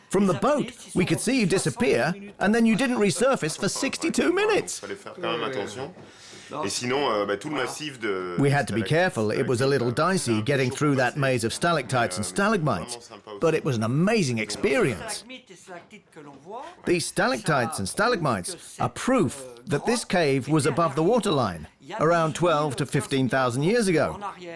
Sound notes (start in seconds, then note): 5.1 speaking French